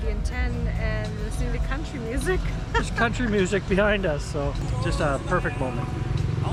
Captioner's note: laughs